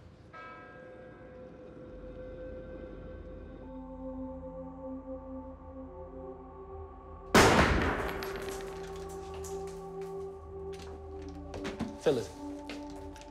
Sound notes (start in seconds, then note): 0.1 bell tolls; 0.1 somber music; 7.3 gun fires